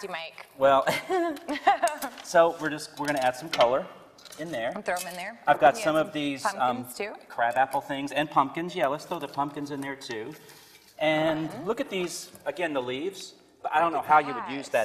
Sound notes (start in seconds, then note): 0.8 both laugh